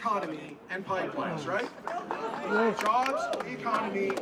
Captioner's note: applause